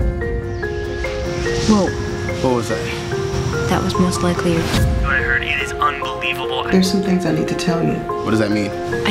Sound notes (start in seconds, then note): 0.6 energy sounds